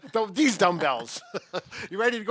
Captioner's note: laughing